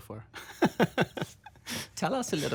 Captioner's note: laughs